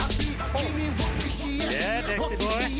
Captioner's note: engine revving